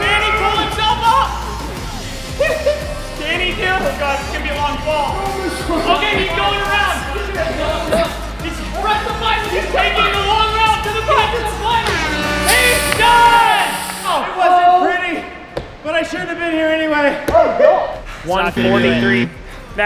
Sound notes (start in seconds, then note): 12.0 foghorn; 17.5 cheering